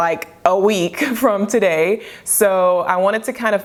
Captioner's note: chuckles